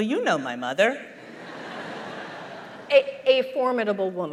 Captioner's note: laughter